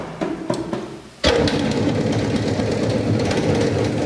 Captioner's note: loud machine rattling